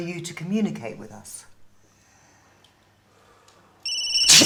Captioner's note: cell phone ringing and screams